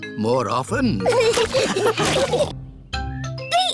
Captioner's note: all laughing